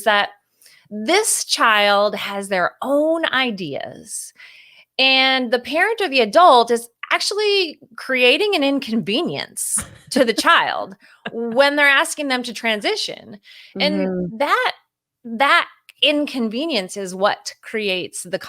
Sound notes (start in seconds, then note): 11.1 laughs